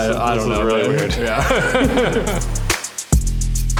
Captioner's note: all laughing; bright upbeat music